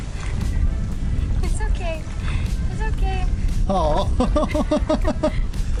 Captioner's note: laughter